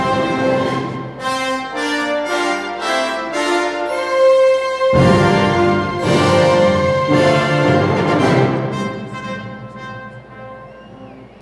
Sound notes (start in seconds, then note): none